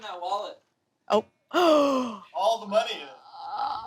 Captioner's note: gasps